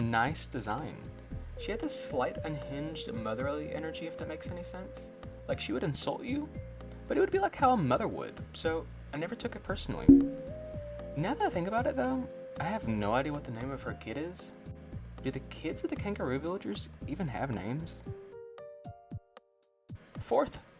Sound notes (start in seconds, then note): 10.1 bonk